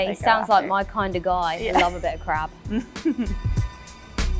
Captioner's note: laughter